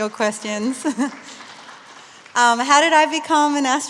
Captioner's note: applause